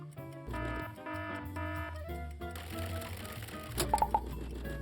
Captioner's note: gentle playful music; alarm ringing